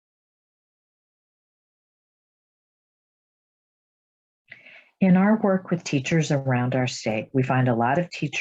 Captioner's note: silence